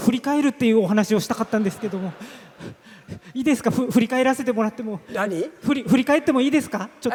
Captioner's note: laughs